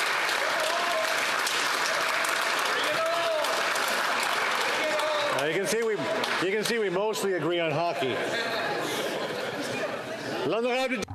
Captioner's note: applause